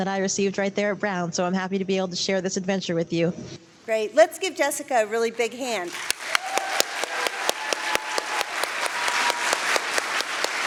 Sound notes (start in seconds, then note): 5.8 applause